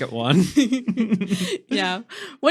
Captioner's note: laughing